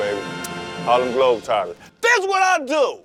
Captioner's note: blowing a kiss